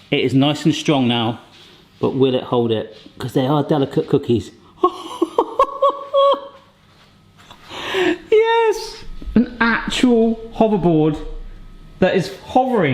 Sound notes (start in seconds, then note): 4.8 laughing